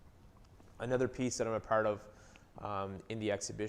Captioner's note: none